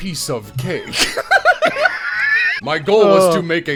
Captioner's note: laughter